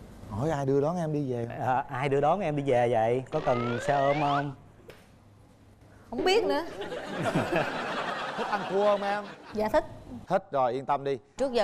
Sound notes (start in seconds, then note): 7.0 laughing